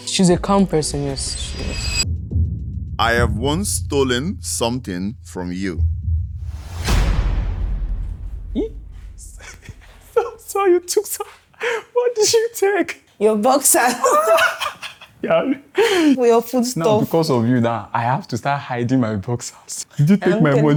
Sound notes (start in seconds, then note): 14.0 laughs